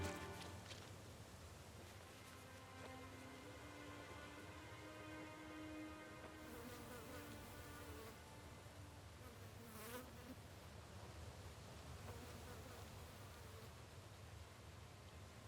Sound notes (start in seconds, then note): 6.3 flies buzzing